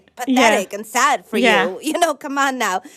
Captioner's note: laughter